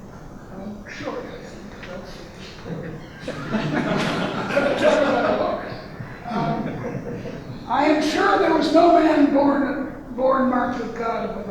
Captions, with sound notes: (audience laughing) (laughing drowns out speaker) I am sure there is no man born marked of God